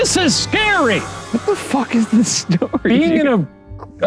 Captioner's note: laughs